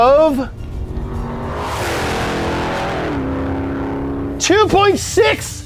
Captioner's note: engine revving